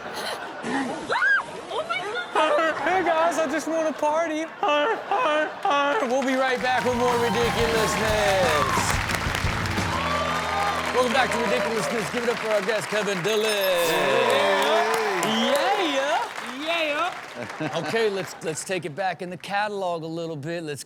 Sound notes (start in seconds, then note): 0.2 audience laughs; 8.6 audience cheers; 8.6 upbeat rock music; 14.4 audience cheers